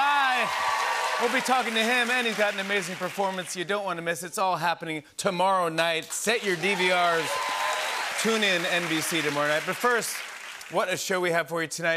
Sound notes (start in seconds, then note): 0.0 cheers and applause; 6.3 cheers and applause